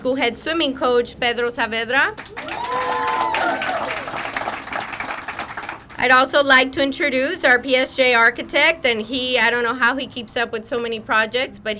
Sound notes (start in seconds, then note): 2.1 crowd applauding; 2.2 crowd cheering